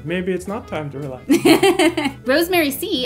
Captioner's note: laughing